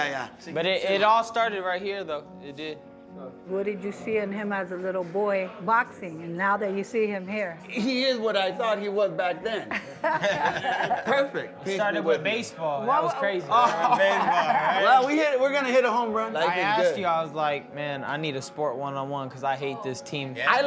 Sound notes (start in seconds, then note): 9.6 laughing